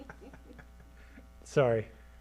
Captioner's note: laughter